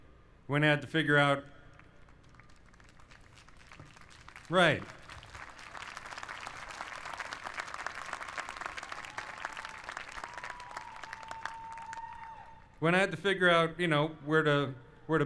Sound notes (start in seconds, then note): 1.5 applause; 6.4 applause continues